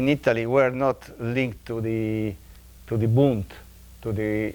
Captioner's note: speaking in foreign language